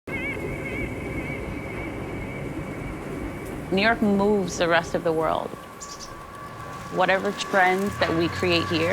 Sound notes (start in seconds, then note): 0.2 train engine roaring